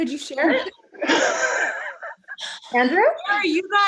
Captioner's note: all laughing